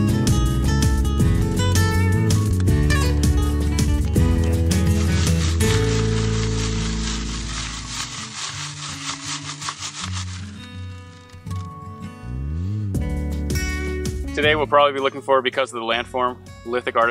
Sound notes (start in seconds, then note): 0.2 shovel breaking dirt & rocks; 4.2 screening dirt & rocks